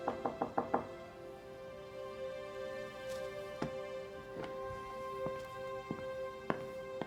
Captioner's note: knocking at door